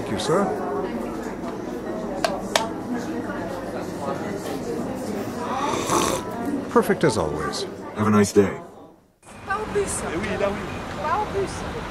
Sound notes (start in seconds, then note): 5.4 slurps loudly